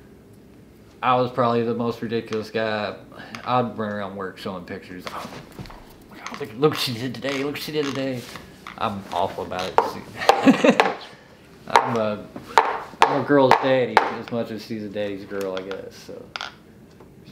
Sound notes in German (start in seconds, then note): 10.1 lacht; 12.5 Cup Taps